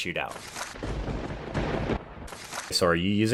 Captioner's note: thunder bangs